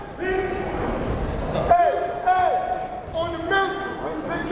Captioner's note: yelling